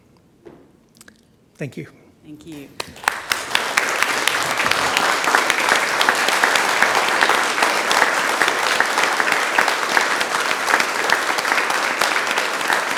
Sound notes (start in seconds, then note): 3.8 audience claps; 7.5 claps continue